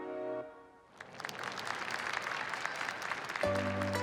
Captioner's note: crowd applauding